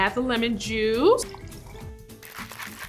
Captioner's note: drink shaking; champagne popping